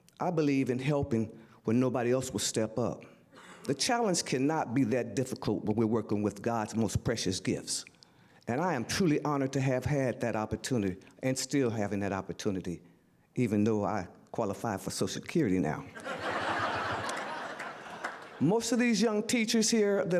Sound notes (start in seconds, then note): 15.9 audience laughter